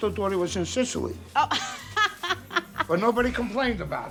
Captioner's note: laughs